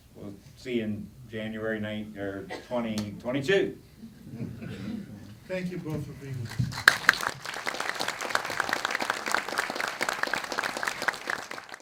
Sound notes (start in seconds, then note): 4.0 laughing; 6.4 applause